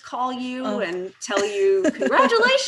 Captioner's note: laughing